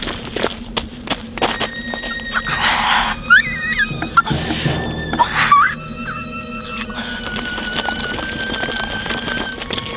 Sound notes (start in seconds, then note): 2.3 muffled screaming